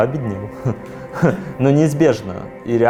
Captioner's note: laughs